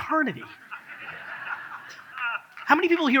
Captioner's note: audience laughs